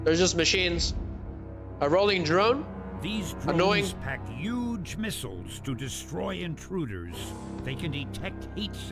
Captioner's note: snorts